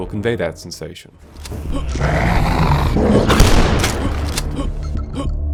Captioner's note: dog-thing snarls past the player